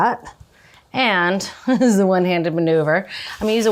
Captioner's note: chuckles